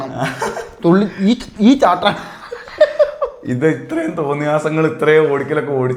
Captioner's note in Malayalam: പൊട്ടിച്ചിരി